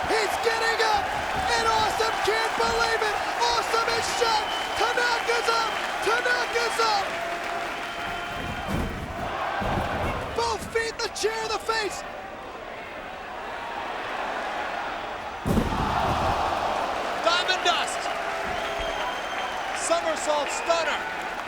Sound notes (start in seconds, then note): 0.0 crowd exclaiming; 15.2 bodies slamming